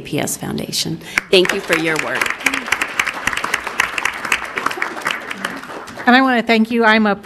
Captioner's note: crowd applauding